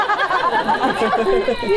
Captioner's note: audience laughs